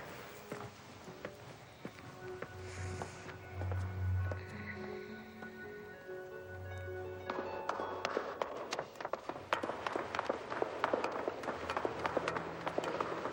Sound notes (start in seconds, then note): 0.2 eerie orchestral music; 7.2 footsteps clacking